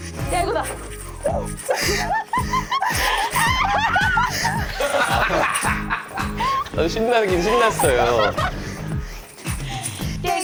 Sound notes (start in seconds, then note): 5.0 contagious laughter